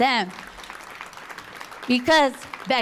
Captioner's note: applause